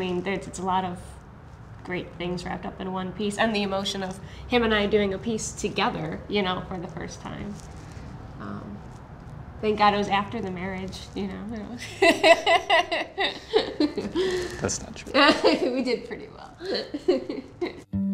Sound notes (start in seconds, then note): 11.8 laughs; 17.8 soft guitar music